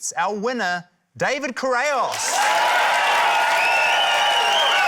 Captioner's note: cheering, applause